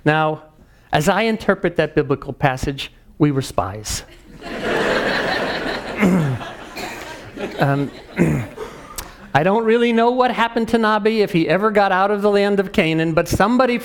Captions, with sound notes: Now as I interpret that biblical passage, we were spies. >> [LAUGH] >> [COUGH] I don't really know what happened to Nabi, if he ever got out the land of Canaan, but